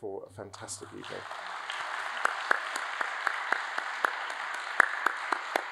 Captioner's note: audience applauds